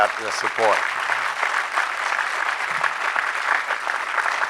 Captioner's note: audience clapping